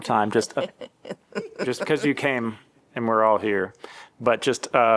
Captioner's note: laughter